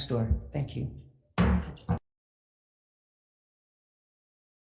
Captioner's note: gavel bangs